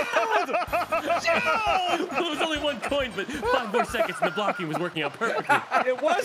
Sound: screams

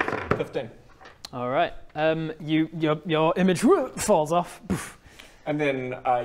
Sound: boof

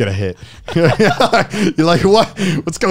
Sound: everyone laughs

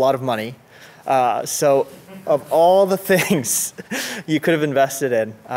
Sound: laughs

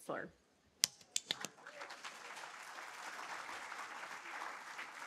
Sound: audience applauding

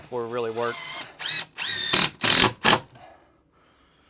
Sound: machine buzzing

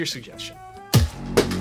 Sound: crash

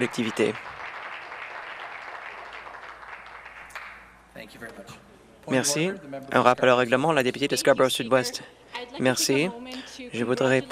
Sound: some Applause

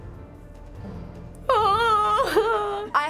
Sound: whimpers

